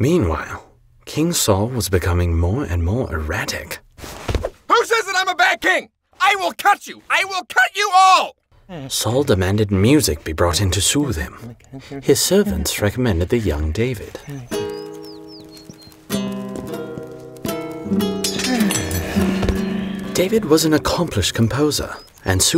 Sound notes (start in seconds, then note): 16.1 out of tune harp music; 18.4 Saul sighs contentedly